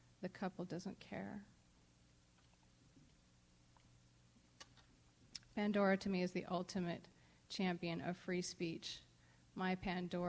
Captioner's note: pause